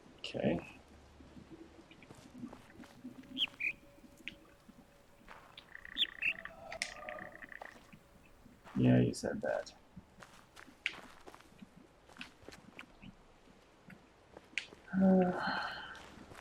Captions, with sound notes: Okay... [bird chirps high-low] [bird chirps high-low] Yeah, you said that. [sighs]